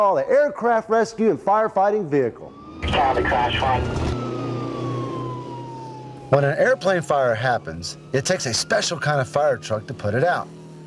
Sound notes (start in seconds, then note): 2.3 siren wailing; 2.7 radio chatter